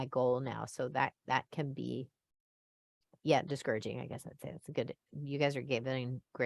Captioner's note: voice fades